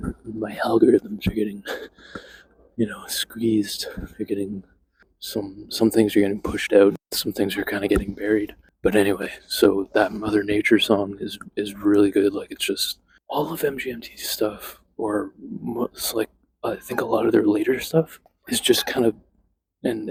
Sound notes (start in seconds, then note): 0.1 weird voice; 2.1 laughs; 5.1 normal voice